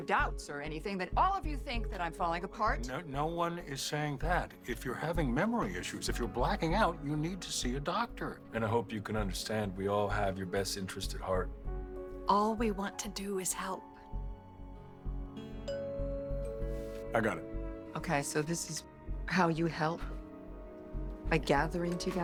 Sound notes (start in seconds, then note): 14.2 doorbell rings